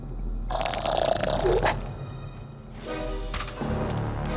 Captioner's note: creature groaning; creature growling; ominous music